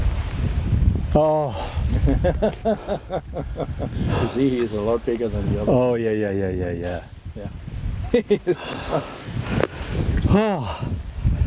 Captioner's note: laughing